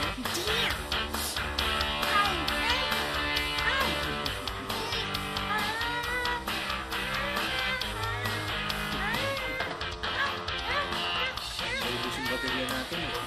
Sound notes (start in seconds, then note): 2.8 giggles; 2.8 humming